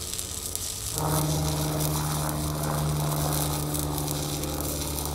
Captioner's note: plane engine humming